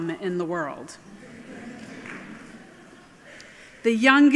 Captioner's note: laughing